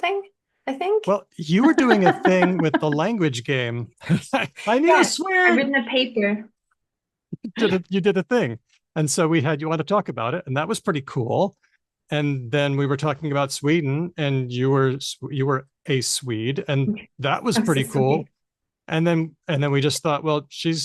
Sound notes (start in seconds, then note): 1.4 laughs